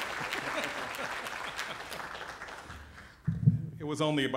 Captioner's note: applause